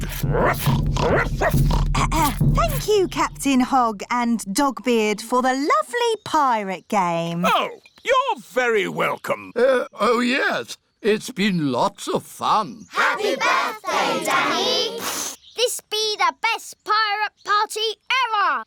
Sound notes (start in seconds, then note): 0.0 oinks; 1.0 barks; 2.1 clears throat